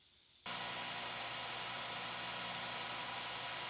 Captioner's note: lathe whirring